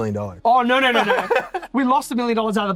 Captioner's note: laughs